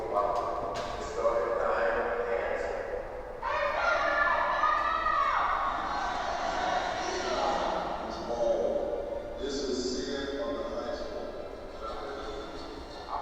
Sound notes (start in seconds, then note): 3.5 shouting